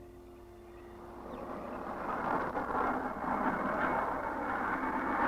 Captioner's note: wind rushing